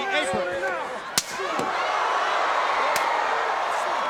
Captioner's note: crowd cheering